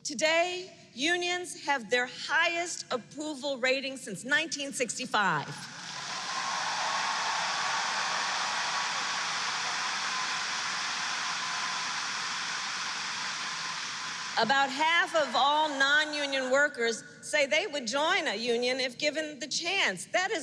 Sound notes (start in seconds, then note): 5.7 applause